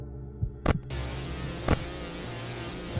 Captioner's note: radio turns on